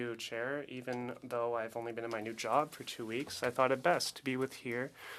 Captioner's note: speaking French